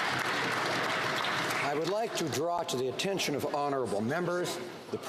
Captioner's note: some Applause